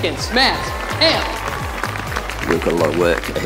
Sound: people applauding

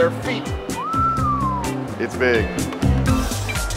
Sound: whistles

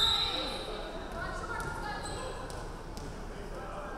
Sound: referee whistling

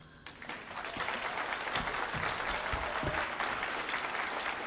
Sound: audience applauding

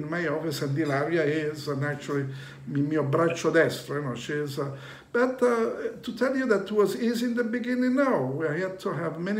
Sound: speaking Italian

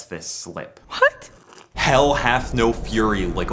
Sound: sip

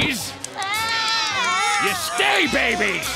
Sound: crying

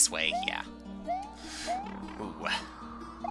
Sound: sigh

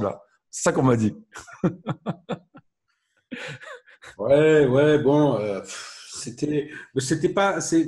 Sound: laughs

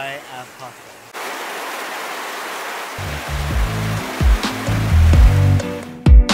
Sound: sound of heavy rain; soft background music

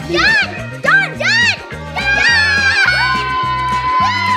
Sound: cheering

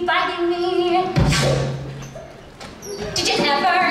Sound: gunshot

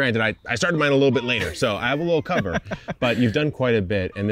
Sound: laughing

